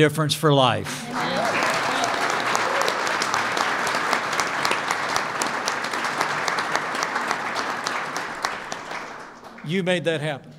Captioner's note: applause